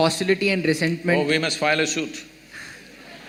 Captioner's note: laughter